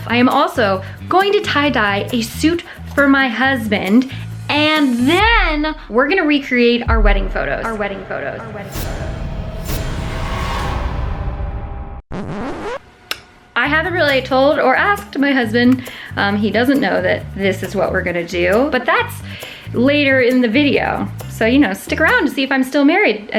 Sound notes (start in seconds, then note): 8.6 echos; 9.2 dramatic music; 12.2 tape stopping